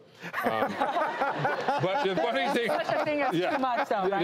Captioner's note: laughing